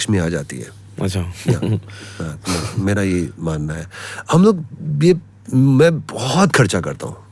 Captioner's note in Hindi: हंसी